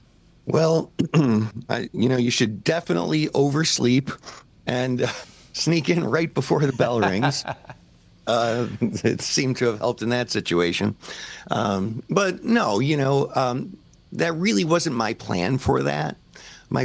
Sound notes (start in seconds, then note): 6.6 laughter